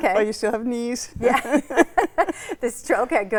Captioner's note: laugh